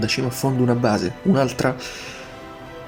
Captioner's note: inhales